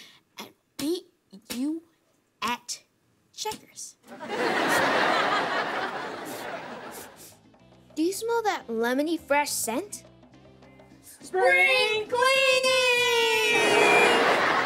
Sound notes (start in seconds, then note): 6.9 sniffs